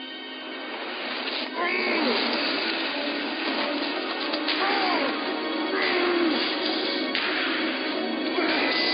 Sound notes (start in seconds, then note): 1.6 Tyler groaning in pain; 2.0 ominous music